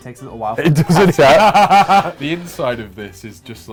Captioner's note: laughs